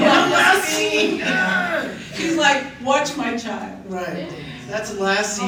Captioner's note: grunting